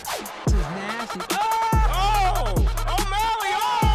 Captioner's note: cheering